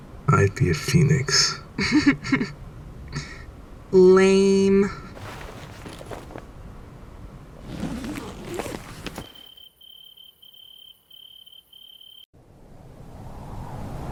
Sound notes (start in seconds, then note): 1.8 Cinder chuckles